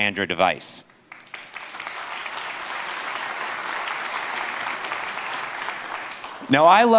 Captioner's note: applause